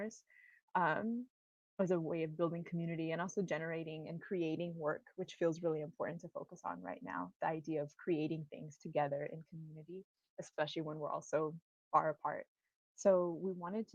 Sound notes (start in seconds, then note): none